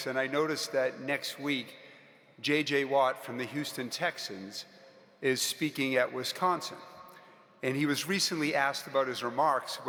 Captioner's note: none